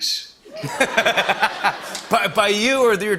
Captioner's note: laughter